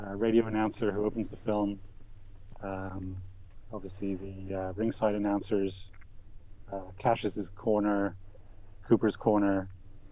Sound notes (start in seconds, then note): none